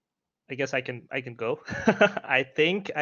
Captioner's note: laughs